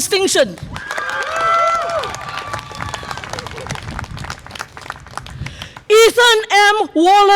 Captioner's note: audience applause and cheer